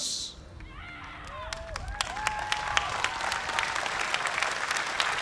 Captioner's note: cheers and applause